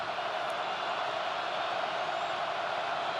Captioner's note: crowd cheering